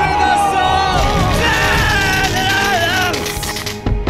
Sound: brzzzzt

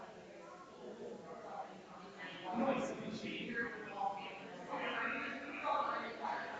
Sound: people chattering distantly continues

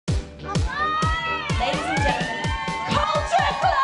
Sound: all exclaiming

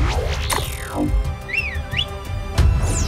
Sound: whistling

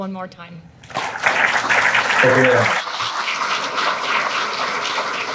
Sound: audience clapping

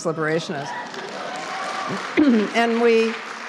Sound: applause

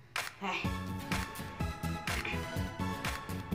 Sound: sigh

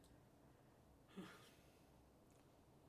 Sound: Kramer sighs

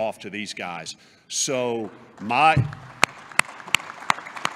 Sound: applause

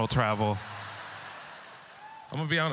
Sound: audience laughter

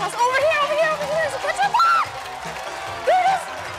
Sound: screams

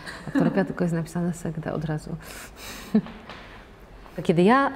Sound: laughter

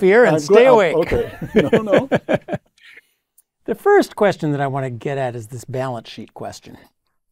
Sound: laugh

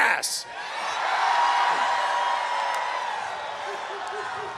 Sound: audience cheers

